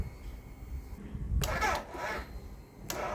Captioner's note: weak sputter